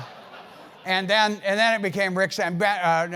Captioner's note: laugh